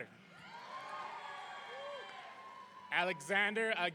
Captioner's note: audience cheering